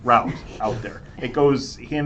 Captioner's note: laughter